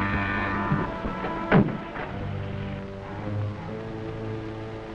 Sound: devisualizer humming; metallic thudding

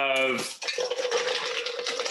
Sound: ice clinking

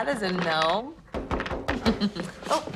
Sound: knocking on door

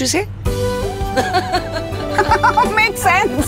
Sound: both laughing

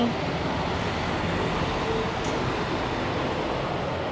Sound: cars whir

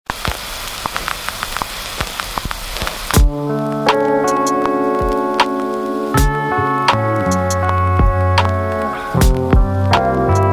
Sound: record player static

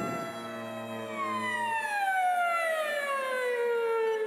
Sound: phone ringing

